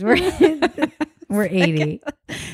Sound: both laugh

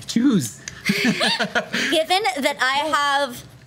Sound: laughs

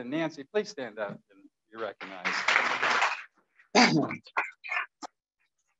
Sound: applause

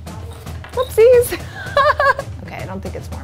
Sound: laughs

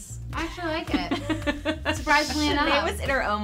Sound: laughing

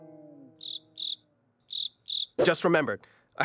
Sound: cricket noises

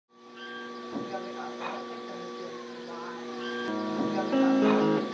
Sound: pottery wheel noise

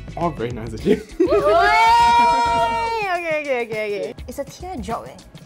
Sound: cheers

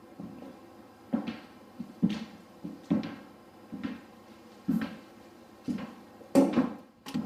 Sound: footsteps

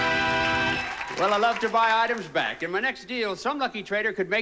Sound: audience applauding

